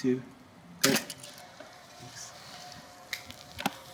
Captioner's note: camera clicks